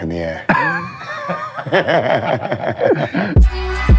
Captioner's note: laughing